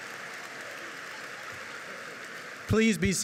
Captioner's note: audience cheers and applauds